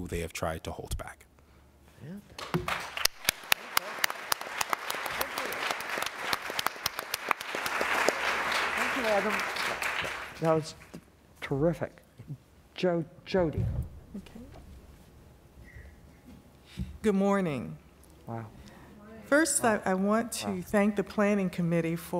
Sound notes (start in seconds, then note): 2.3 applause